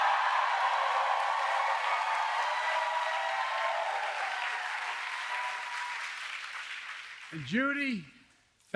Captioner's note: applause